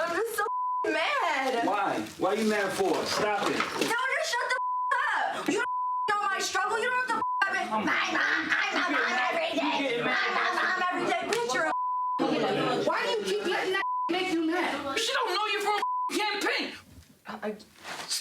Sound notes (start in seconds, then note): 7.1 beep; 10.5 yelling and arguing